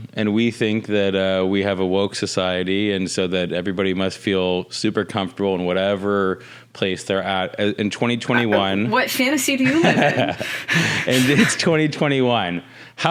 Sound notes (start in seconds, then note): 9.6 laughing